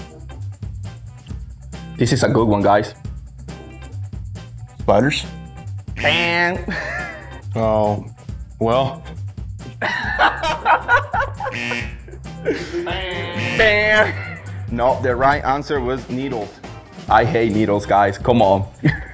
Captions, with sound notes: This is a good one guys. - Spiders. (imitates buzzer) - Oh, well. (buzzer sounds) (imitates buzzer) - No, the right answer was needles. I hate needles guys. Come on.